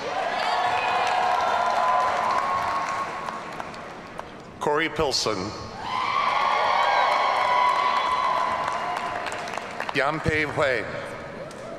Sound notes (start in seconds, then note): 0.0 audience cheering; 0.1 audience applauding; 5.8 audience cheering; 11.6 audience cheering